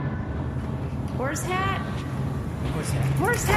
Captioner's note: calling out